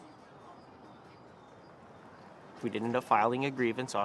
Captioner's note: birds chirping